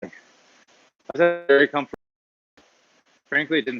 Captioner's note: audio glitching